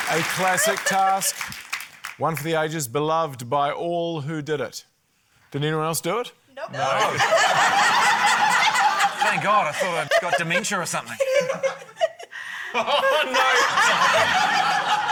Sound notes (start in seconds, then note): 6.8 laughter